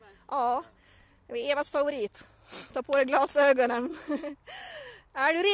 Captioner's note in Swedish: skrattar